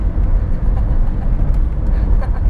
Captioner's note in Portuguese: risos